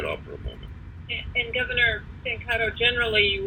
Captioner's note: away from microphone